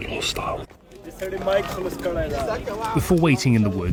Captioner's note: speaking foreign language